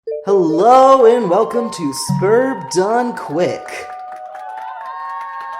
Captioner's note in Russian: Ликуют зрители